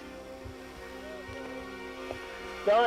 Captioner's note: yelling